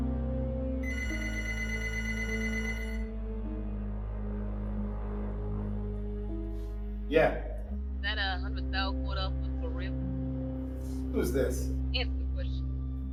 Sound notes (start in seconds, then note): 1.6 ringing; 3.6 phone ringing